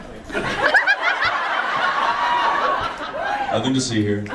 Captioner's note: audience laughs and screams